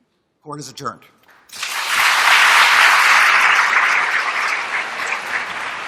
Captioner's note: applause